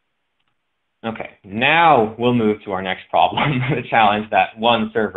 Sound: laughs

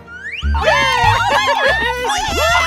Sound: group Cheering

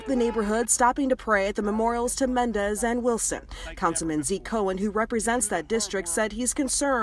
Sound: speaking spanish

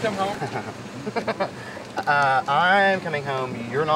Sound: laughs

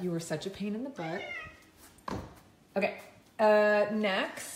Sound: Charlie meows

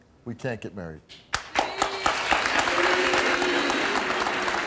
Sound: applauding

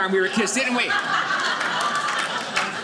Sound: audience laughing

